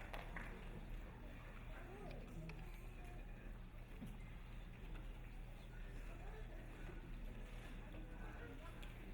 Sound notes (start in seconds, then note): 0.9 low audience murmuring